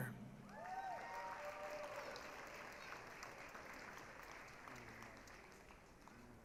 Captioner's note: applause, cheering